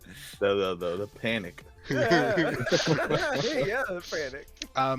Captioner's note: laughter